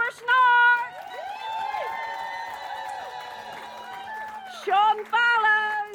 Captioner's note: cheering